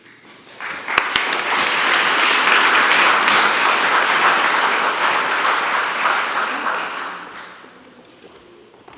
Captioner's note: applause